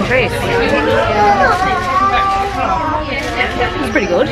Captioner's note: chattering in distance; baby crying